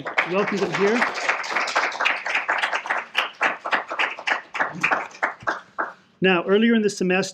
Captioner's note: applause